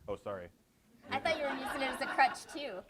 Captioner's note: audience laughs